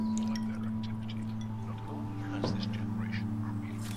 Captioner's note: radio Announcer